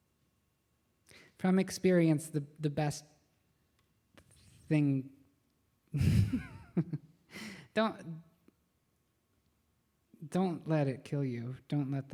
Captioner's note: laughs